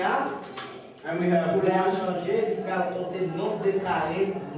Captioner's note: speaks in French